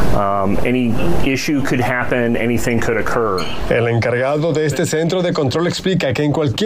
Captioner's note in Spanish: habla en ingés